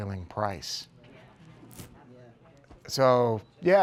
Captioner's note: crowd murmuring